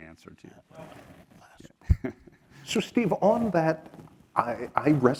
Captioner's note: laugh